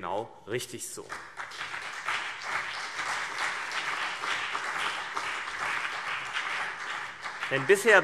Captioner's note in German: Beifall CDU und BÜNDNIS 90/DIE GRÜNEN